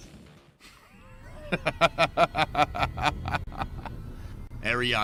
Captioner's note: laughs maniacally